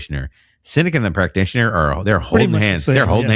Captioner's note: uh